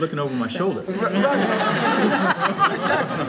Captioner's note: audience laughing